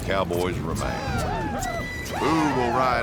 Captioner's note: shouting